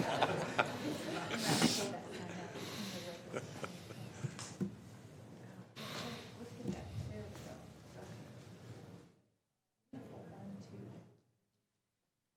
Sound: laughing

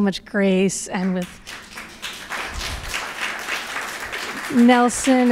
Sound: applause

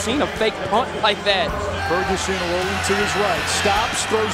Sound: voiceover

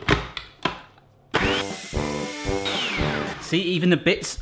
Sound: blender whirs; lively music

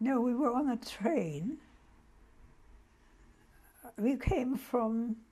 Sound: pauses for 3 seconds

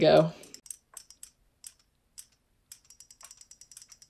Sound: toys clicking

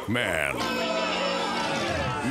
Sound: booing

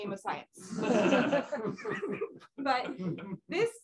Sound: laughter

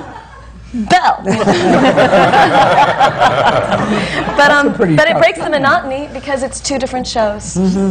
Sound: laughter

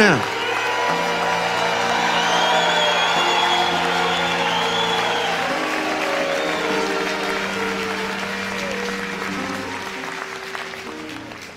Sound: audience cheers and applauds

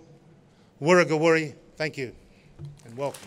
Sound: non-english speech

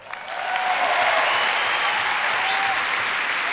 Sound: audience cheers and applauds

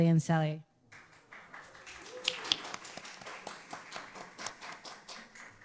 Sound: audience applauding

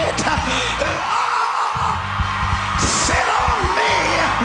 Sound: groaning

